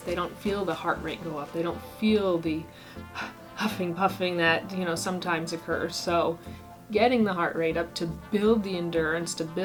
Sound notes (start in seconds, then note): 2.7 huffing